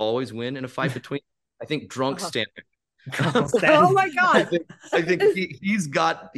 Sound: laughs

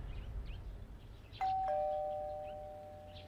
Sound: doorbell ringing

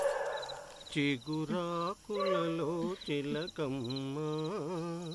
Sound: humming

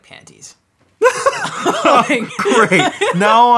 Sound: laughing

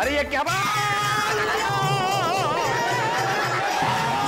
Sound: screaming

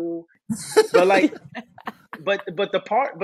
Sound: laughing

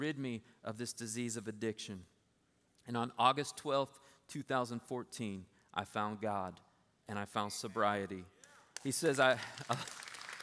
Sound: applause

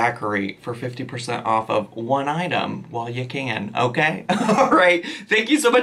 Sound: laughs

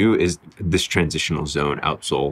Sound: none

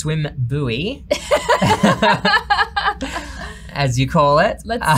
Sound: both laugh

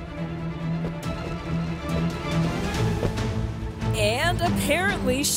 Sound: footsteps pattering

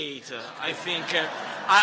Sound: laughter

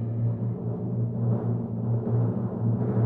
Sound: rumble; rumble rumble; rumble rumble rumble; rumble rumble rumble rumble

